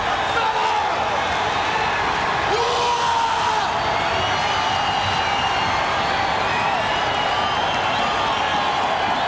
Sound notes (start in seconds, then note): 2.6 Roddy shouts; 4.0 audience cheering